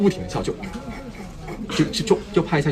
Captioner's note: imitates sniggering